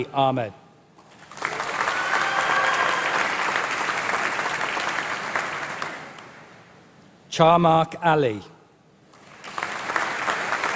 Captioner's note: applause